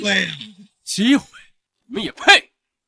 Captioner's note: scoffs derisively